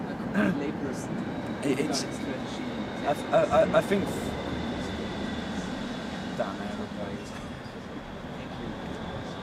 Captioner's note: airplane noise